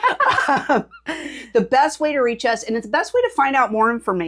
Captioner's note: laughing